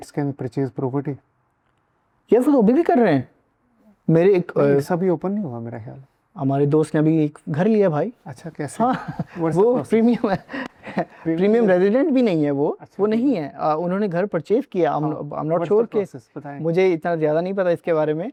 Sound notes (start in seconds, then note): 11.6 laughs